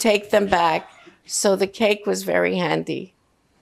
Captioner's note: coughing